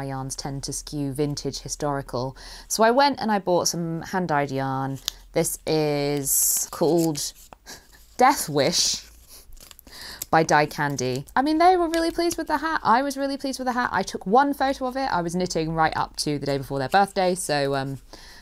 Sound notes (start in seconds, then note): 7.9 chuckles